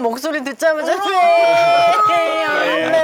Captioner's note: boo-hoo